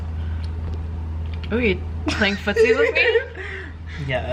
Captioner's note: giggling